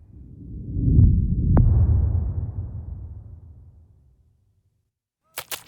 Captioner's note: dramatic sound